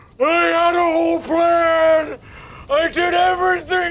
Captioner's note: groaning painfully; fire raging and crackling